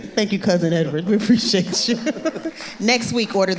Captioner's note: laughing